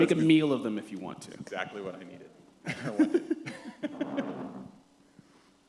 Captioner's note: laughter